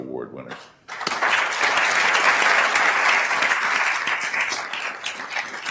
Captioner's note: attendees applauding